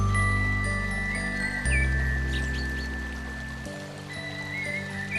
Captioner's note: water gurgling; birds singing